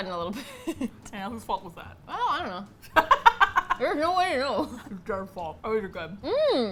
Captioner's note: laughs; laughs; mouth full